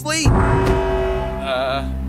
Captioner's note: siren blares